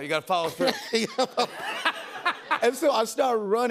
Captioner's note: laughter